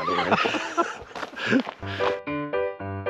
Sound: Eugene laughing; upbeat music plays

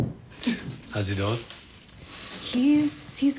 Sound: chuckles

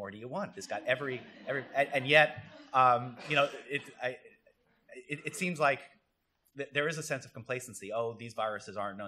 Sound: laughter

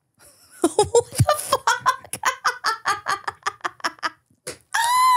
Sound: laughing

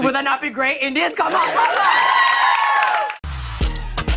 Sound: cheers and applause

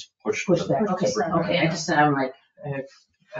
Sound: speaks faintly

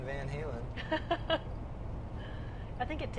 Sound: laughing

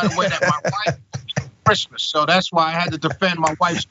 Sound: laugh

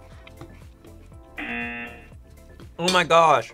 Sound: buzzer

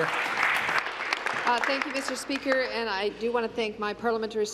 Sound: applause

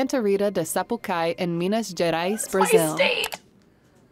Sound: squeaks

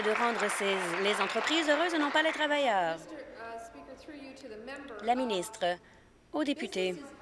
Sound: applause

